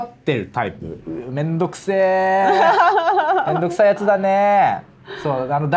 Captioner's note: laughs